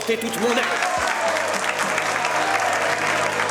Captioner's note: all applause